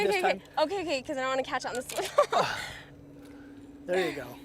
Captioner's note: laughter